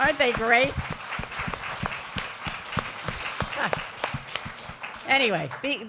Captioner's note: applause